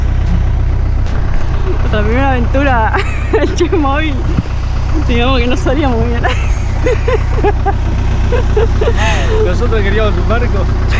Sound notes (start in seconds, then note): 7.7 laught